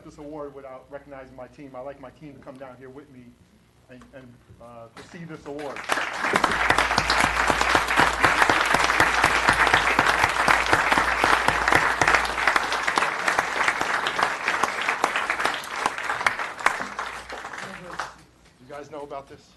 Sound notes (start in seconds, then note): 6.1 applause; 16.1 applause